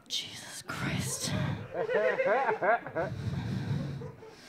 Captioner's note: audience laughing